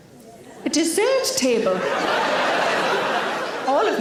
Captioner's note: audience laughing